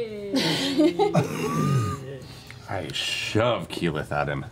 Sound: laugh

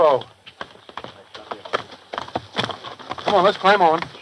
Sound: hooves clopping

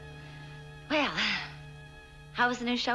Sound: exhale

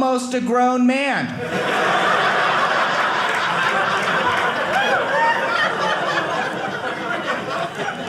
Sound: audience laughing

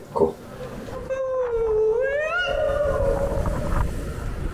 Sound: ghost sounds

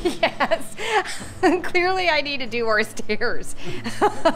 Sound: laughs

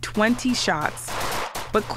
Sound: gunfire

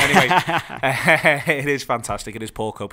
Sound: laughs

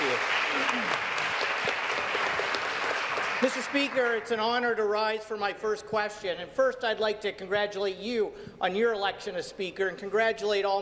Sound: applause

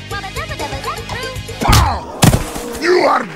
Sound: pow

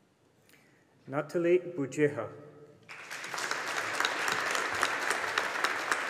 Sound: audience applauding

